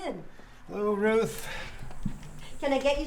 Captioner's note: door closing